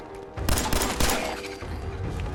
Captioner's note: blam! blam! blam!